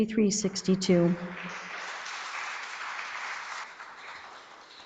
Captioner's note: audience applauds